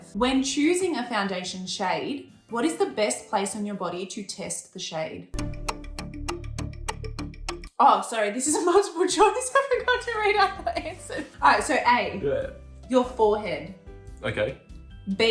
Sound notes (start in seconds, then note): 5.4 clock ticking; 10.1 laughing